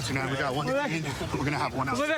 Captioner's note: excited chatter